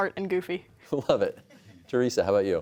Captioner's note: chuckling